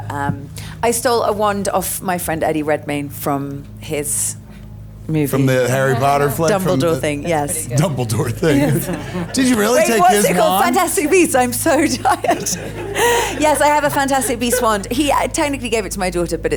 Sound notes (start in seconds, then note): 8.9 chuckles; 12.9 laughs